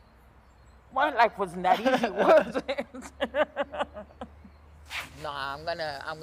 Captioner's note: laughs